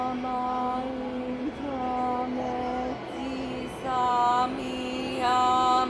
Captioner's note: chanting continues